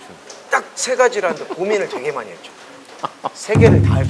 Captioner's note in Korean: 웃음